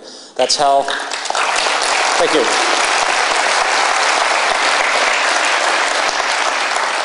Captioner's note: applause